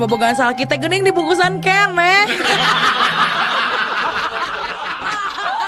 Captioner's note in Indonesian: tertawa